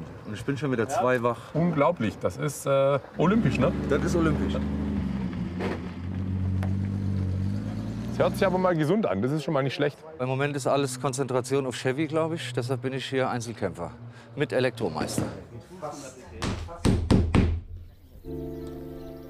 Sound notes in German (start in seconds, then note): 4.7 Motorbrummen; 18.1 Sanfte Musik